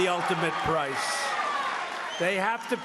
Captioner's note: cheering and applause